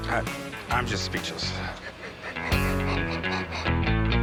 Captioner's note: laughs